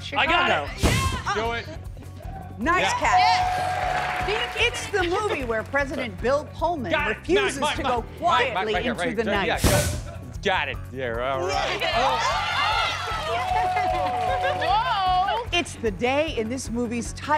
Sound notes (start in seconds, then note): 11.4 shouting